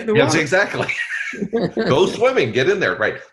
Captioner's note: laughs